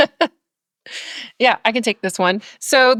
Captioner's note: laughs